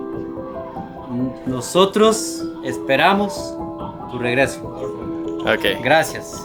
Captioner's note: Spanish